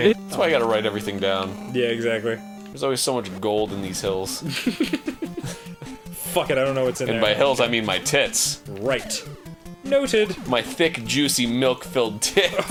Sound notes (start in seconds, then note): 4.4 chuckling